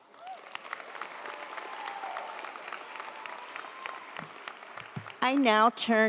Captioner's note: audience cheers; audience applauds